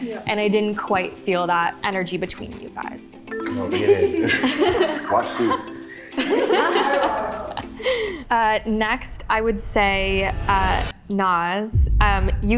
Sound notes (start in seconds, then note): 7.0 laughs